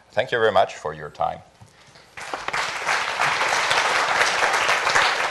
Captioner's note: applause